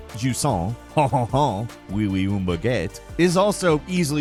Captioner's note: pretending to speak French